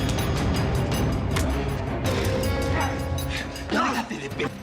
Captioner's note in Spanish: golpes